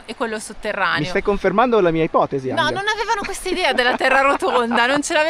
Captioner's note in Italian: risate